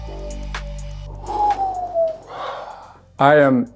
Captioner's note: sigh